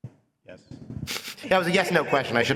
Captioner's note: laughter